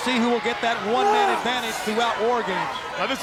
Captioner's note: wrestler screams